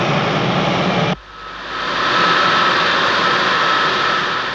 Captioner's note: motor zumbe